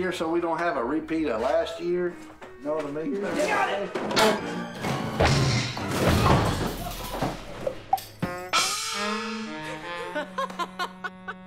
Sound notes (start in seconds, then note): 5.5 beds falling; 9.6 Robbie laughs